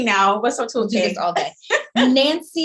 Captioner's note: laughing